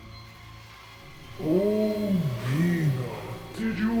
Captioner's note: malevolent voice